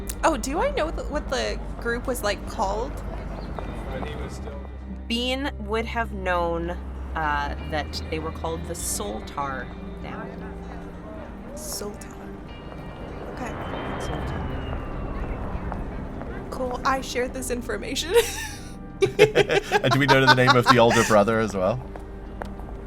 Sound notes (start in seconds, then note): 19.0 chuckles